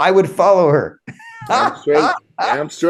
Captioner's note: laughs